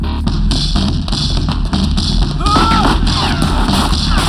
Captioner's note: yells